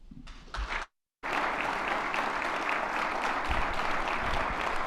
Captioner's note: attendees clapping